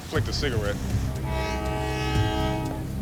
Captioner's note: train horn blaring